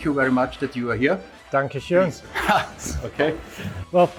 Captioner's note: laughs